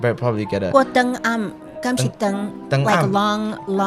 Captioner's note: Taiwanese